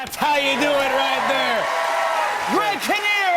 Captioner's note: cheers and applause